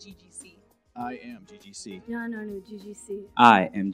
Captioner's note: in Malayalam